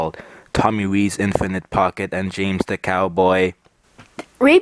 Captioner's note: robotically